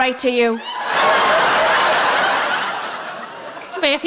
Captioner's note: laughing